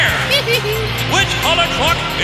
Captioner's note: giggling